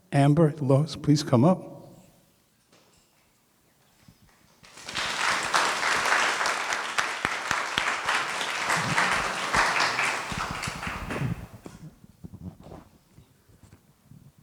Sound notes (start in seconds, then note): 4.6 applause